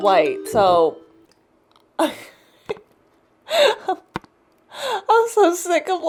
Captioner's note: pained laugh